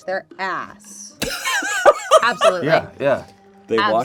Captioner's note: laughs